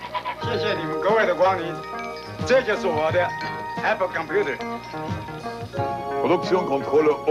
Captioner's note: Mandarin